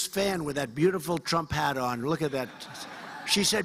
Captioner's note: cheers and applause